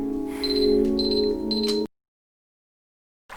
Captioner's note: beeping